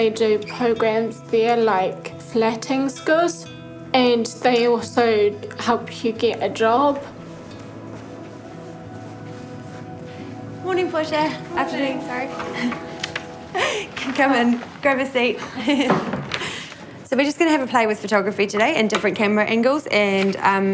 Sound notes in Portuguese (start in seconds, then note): 12.5 risos